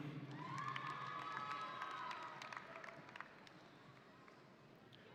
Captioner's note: audience cheering